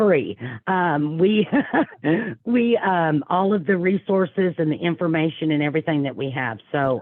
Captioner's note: laughing